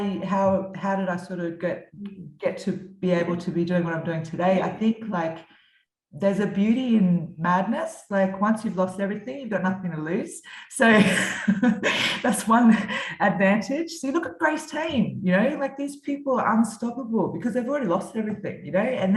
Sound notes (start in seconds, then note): 10.9 laughs